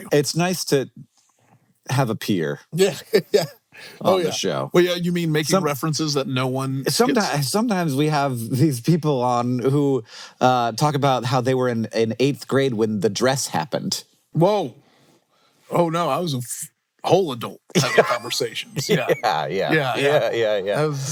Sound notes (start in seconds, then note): 2.8 laughs